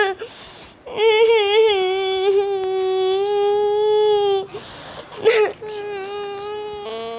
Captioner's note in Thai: ร้องไห้